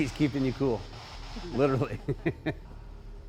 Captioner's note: chuckling